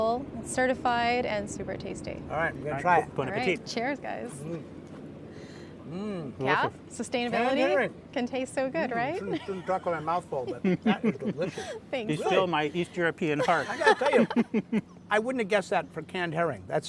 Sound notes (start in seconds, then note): 10.3 both laughing; 13.2 all laughing